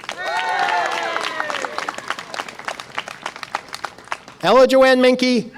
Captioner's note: audience applause and cheer